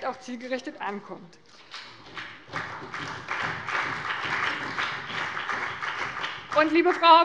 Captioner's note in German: Beifall bei dem BÜNDNIS 90/DIE GRÜNEN und der CDU